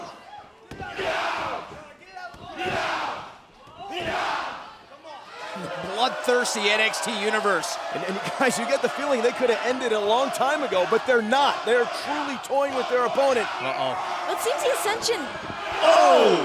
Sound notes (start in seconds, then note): 3.8 fans chanting